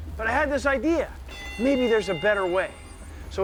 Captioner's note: bell dings